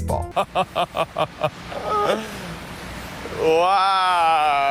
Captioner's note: person laughing